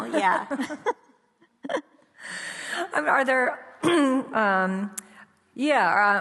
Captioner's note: laughs; clears throat